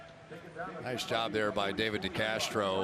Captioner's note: pa announcement